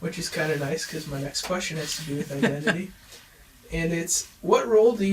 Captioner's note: chuckles